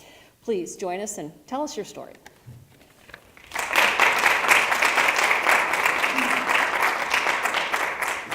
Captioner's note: applause